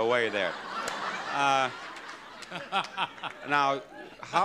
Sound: laughing

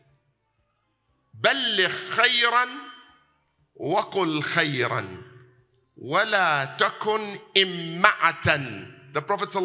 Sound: Arabic

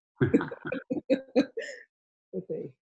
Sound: both laughing

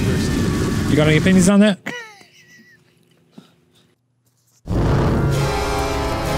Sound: laughs; dramatic music

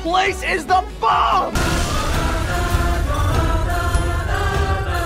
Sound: massive YIIKing explosion

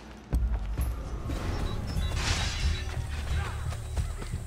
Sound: fighting sounds

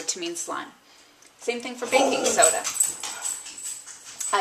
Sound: dog noise in background

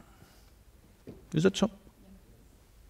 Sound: none

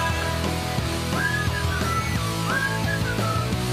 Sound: whistling

